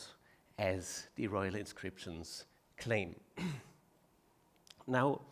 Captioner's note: clears throat